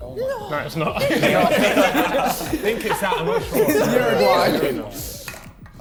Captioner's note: men laughing